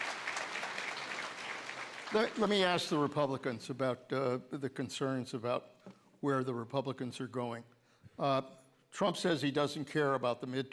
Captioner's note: applause